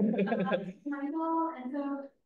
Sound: laughs

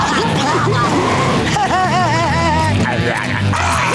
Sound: laughing

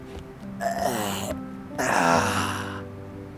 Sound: moans

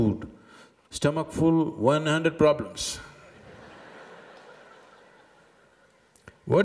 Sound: laughter

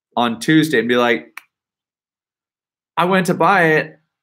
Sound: slaps face

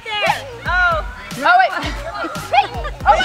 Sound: chatter

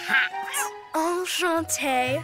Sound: cat meows; Jewel speaks French

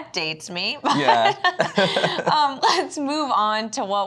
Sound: both laughing

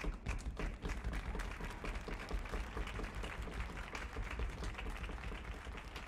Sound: applause

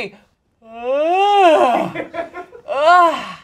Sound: yawns

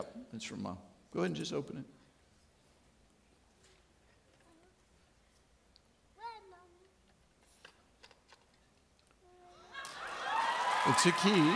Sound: audience clapping

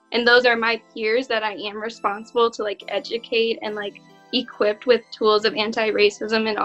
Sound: none

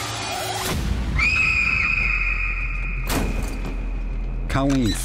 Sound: screaming

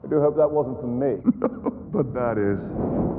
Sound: laughs

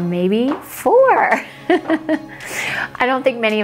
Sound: laughs

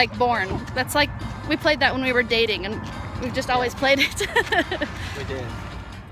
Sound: laughing

